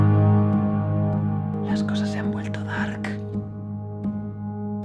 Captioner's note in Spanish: susurro